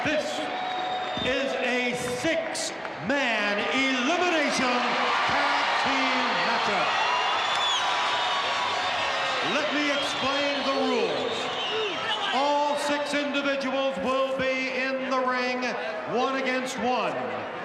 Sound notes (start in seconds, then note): 7.6 audience cheering